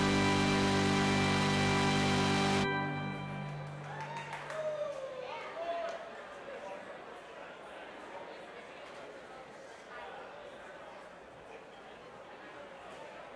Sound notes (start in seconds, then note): 4.5 crowd cheering; 6.0 crowd chattering